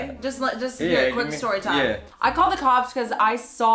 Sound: none

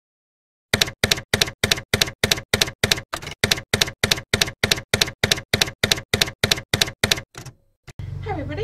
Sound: typewriter keys clacking

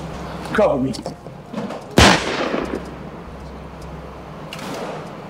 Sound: guns firing

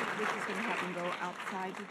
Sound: voiceover

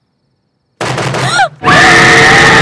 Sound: banging on the door

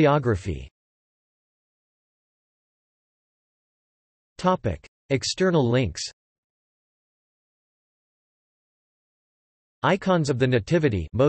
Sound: mostly Russian

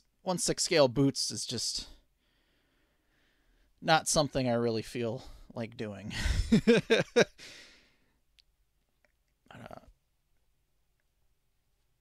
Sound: laughing

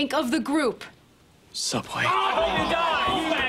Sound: shouting

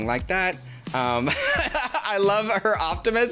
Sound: laughs

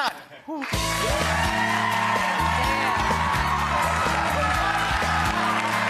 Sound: audience cheering and clapping

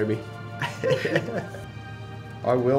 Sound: laughing

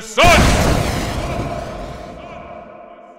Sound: echoing

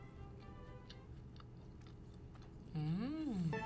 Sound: chewing

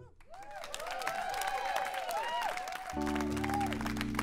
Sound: applause

